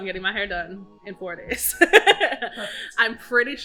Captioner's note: laughs